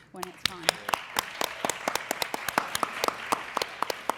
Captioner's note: applause